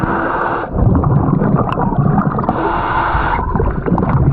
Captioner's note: heavy breathing; bubbles gurgling